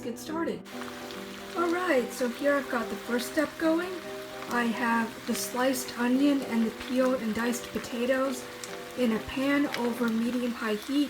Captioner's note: the gentle sizzle and pop of potatoes and onions sautéing in a pan